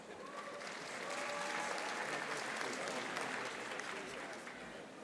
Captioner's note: audience applauding